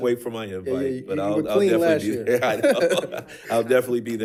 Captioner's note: chuckles